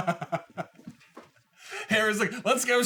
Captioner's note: laughter